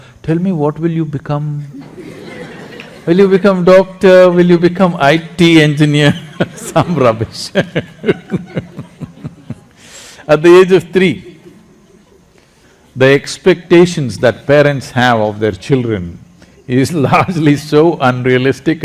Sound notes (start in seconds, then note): 1.7 laughter; 8.3 laughs; 17.2 laughs